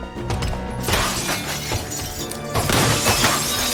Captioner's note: glass shattering